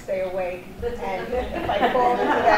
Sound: audience laughing

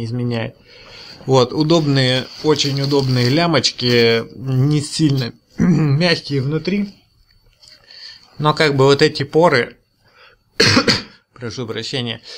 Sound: koughs

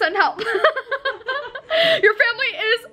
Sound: laughs

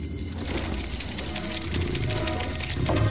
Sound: scuttling

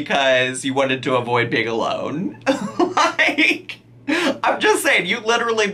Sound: laughing

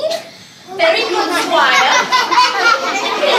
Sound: audience laughing

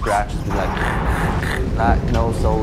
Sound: imitates radio noises

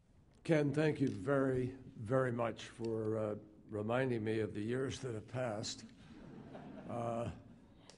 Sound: laughter

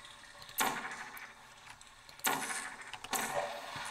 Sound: portal whirling

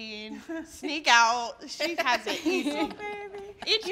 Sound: all laugh

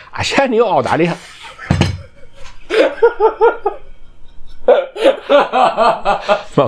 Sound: the director laughs 🤣🤣🤣

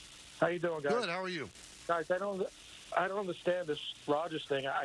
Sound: radio in background

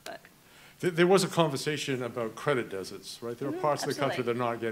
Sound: murmurs

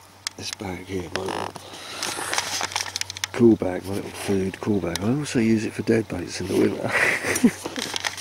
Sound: laughter

